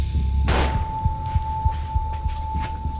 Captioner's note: A gunshot fires